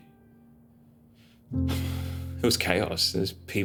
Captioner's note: exhales deeply